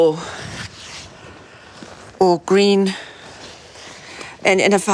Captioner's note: none